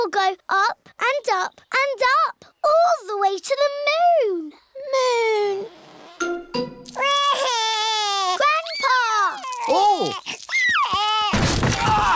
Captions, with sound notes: it will go up and up and up, all the way to the moon! Moon! (WAILS) Grandpa! Oh!